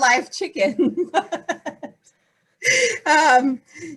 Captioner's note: laughing